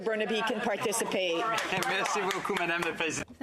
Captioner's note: applause